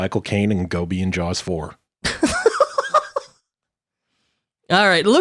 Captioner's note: laughing